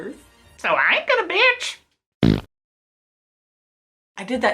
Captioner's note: fart noise